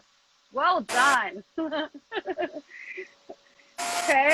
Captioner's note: laughs